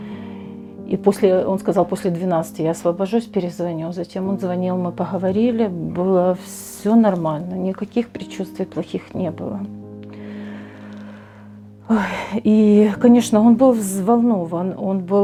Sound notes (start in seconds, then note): 11.9 sighs